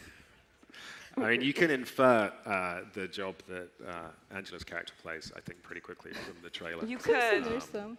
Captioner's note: laughter